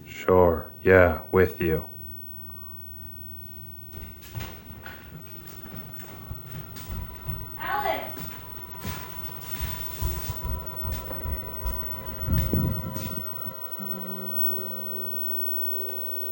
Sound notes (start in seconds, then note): 4.3 footsteps thumping; 9.7 suspenseful music